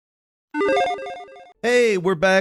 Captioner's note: electronic chiming